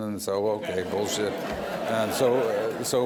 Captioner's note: laughter